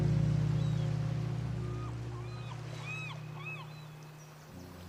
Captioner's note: seagulls crying